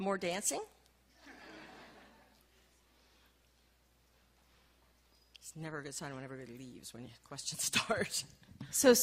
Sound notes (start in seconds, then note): 1.2 laughing